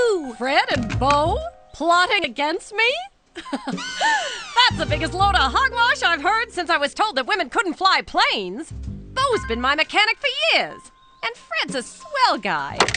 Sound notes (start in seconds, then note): 3.4 laughing